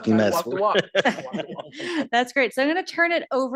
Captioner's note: laughing